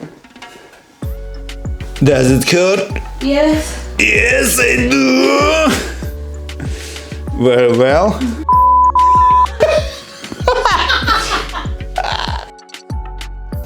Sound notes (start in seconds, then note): 11.1 laughing